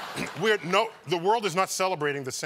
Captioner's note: laughter